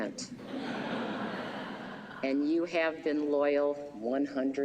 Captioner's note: laughter